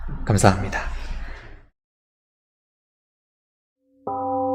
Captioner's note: temple gong rings and fades